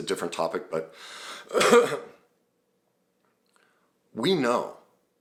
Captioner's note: clears throat